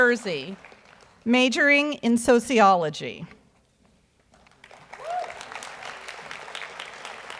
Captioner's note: audience applauds